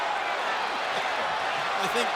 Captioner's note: crowd vocalizing